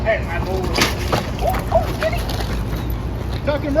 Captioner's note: indistinct conversation; thudding